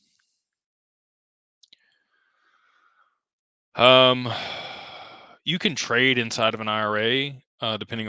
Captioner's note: sighs